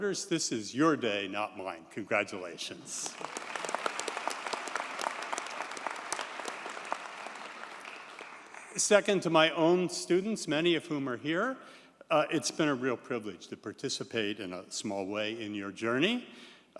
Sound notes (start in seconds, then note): 3.1 audience cheers and applauds